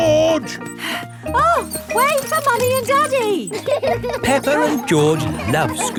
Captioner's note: panting